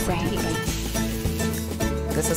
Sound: frying pan sizzles

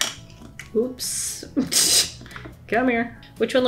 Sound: laughs

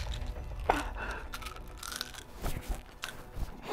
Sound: groans

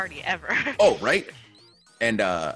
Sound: laugh

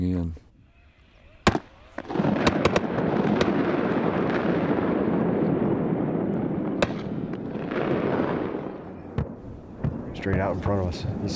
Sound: series of loud gunshots

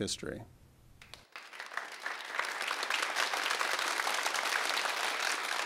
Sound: crowd applauding

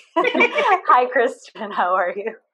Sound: laugh

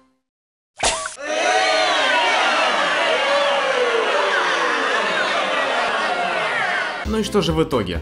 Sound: screams of disgust

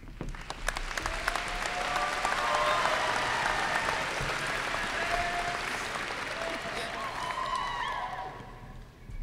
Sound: applause and cheers

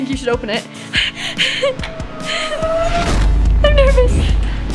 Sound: breathing heavily

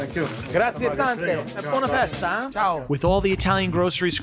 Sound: speaking foreign langauge

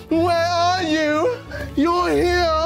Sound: none

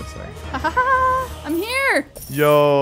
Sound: laughs

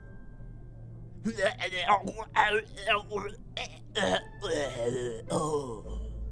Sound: strangled Noises

